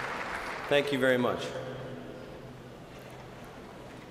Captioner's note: applause